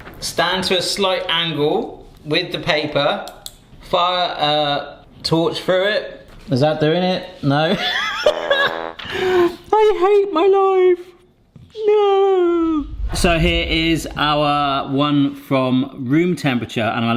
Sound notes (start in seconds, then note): 7.9 laughs; 8.4 fail trombone honks; 11.8 wails